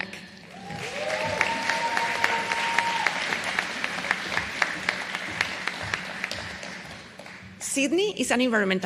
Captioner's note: applause